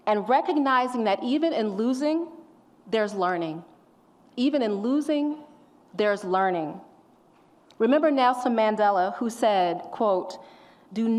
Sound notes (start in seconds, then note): none